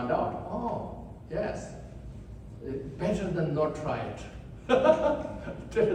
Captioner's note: laughs